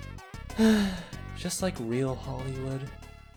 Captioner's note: sigh